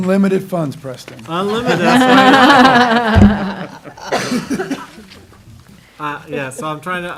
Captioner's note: laughter